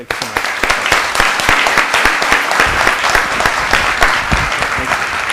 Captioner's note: applause